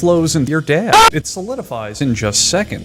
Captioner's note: Violent keem scream